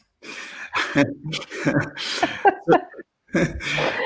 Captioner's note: laughter